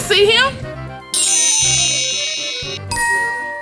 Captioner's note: futuristic zapping; magical ting